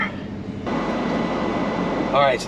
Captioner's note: fan blows